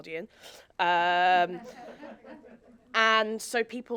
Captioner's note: audience laughing